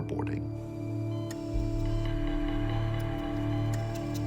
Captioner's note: device beeping